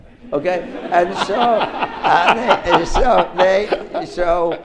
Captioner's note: audience laughs